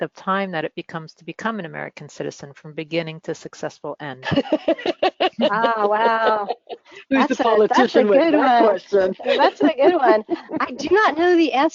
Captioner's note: laughter